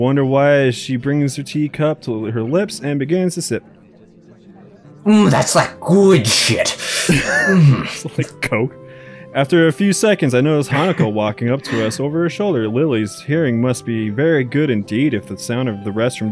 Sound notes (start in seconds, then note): 6.2 laughs; 10.7 chuckles